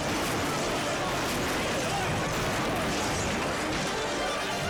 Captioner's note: car crashing